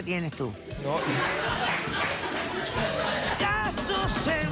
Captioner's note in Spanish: risas